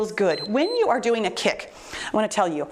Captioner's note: timer beeps